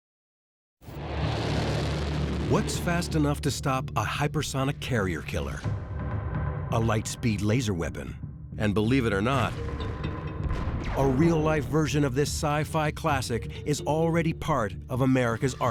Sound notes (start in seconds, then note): 0.9 engine roaring